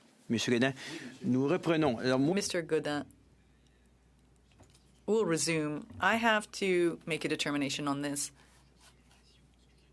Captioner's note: speaking French